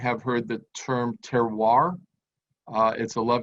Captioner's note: speaks in foreign language